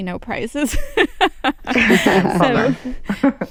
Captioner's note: laughter